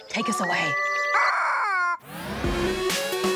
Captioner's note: chicken screeches